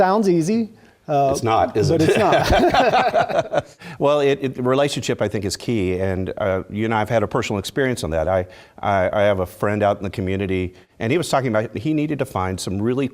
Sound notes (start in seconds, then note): 1.8 laugh